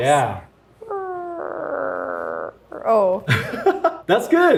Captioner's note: laughs